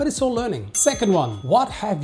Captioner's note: bell dings